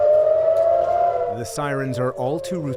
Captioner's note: sirens blaring